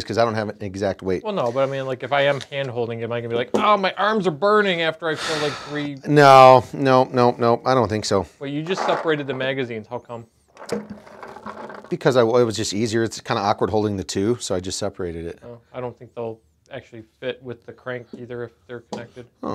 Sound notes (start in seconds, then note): 5.1 sighs; 10.5 paint balls rattling